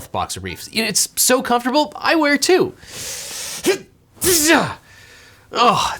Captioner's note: grunts